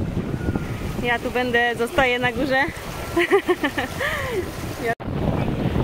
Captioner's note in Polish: śmiech